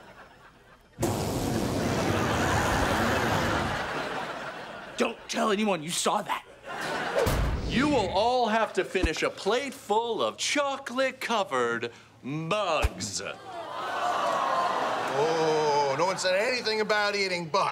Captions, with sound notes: [farting] Don't tell anyone you saw that. You will all have to finish a plate full of chocolate covered... bugs. Oh, no one said anything about eating bugs.